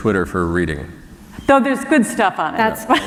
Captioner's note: laughter